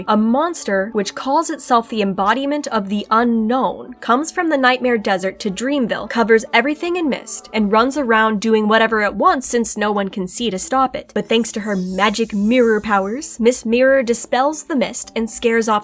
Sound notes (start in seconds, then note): none